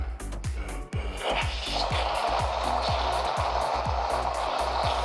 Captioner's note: air whooshing